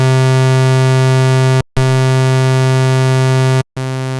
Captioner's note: osc sounds